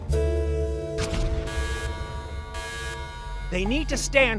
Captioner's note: alarm blaring